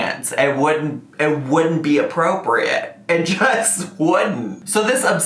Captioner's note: laughs